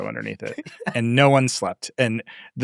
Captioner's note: laughing